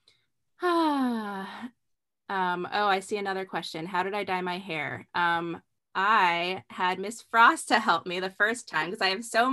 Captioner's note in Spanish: suspiro